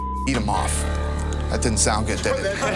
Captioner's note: laughter; laughs